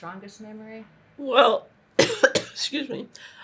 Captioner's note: coughing